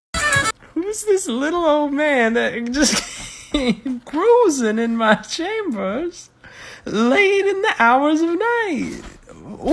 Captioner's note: wheeze laughing